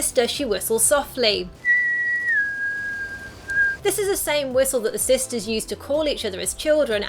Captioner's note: whistles long note